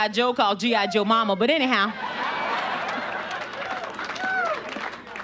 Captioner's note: audience laughing